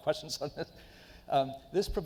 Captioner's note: chuckles